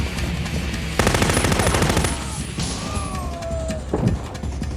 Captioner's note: machine gun firing